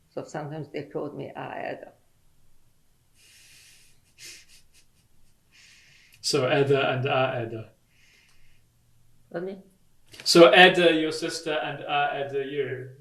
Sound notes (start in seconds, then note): 6.2 laughs